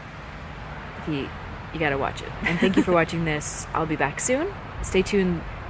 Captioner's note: laughs